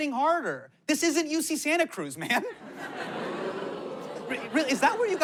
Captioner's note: audience jeers